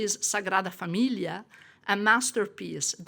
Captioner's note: woman speaking in foreign language